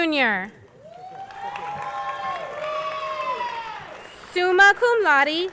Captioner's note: crowd applauding